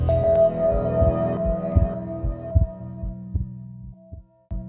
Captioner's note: chill new-age music; heart beating